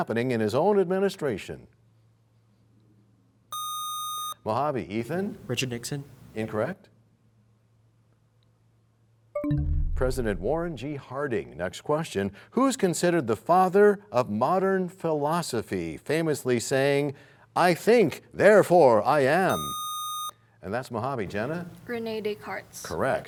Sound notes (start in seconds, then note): 9.4 bell chimes, time expires